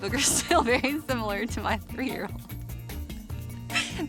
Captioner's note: laughing